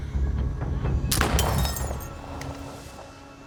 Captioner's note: gunfire, glass shatters